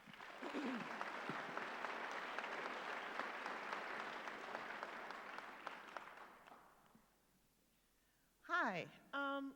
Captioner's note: applause